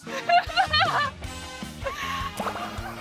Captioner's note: laughs